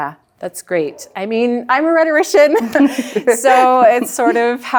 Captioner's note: chuckles